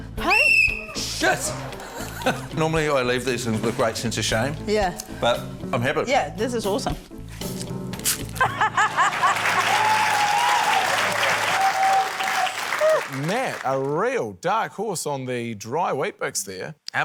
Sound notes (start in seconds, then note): 0.2 blows whistle; 1.3 laughs; 8.4 laughs; 8.6 cheering, applause